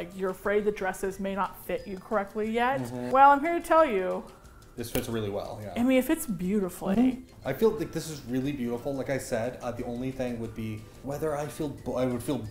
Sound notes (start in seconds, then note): none